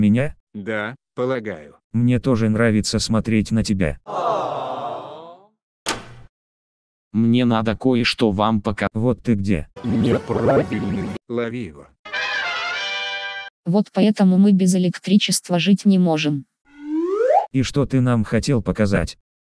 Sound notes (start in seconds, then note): 4.1 awwwww